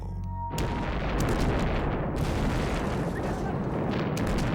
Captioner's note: explosions booming